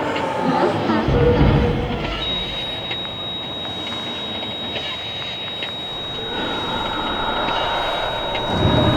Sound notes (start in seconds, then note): 2.5 heart rate flatline